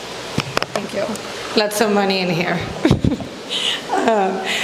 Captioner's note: laughs